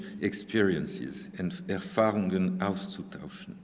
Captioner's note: speaking german